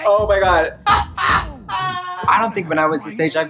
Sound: Trixie laughs

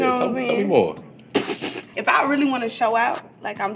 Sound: laughs

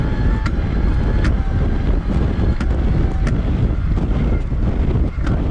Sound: bicycle whirring; wind whooshing

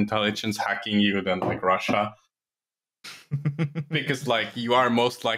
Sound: chuckles

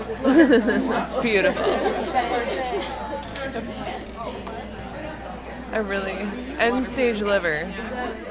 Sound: laughter

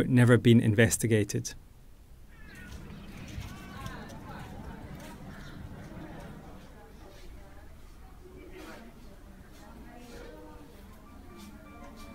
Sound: indistinct chatter

